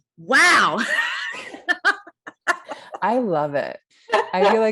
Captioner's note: laughs